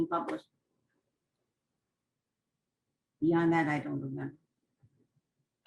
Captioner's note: pauses for 3 seconds